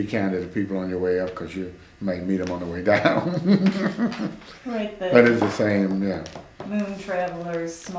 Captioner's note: laughs